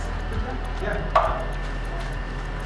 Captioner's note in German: Leise Anweisungen